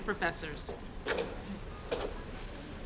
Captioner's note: slide advances